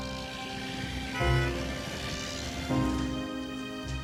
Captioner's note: car honks